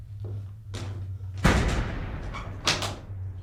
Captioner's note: door slams shut!